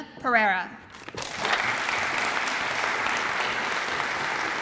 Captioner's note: audience applauds